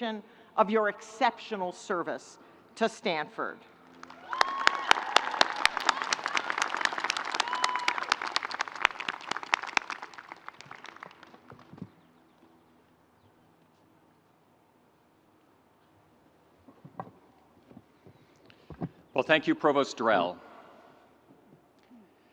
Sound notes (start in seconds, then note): 4.0 audience cheering